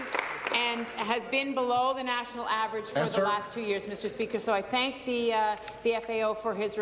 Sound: applause

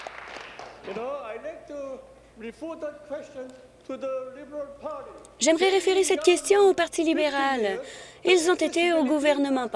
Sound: applause

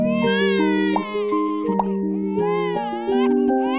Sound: baby crying

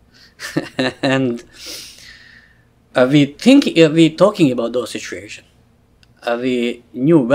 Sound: laughs

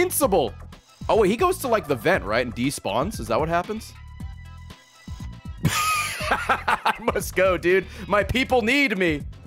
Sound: laughs

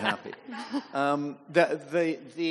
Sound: panelists and audience chuckling

